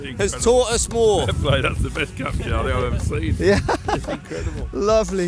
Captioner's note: laughs